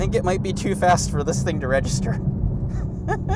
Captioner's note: laughing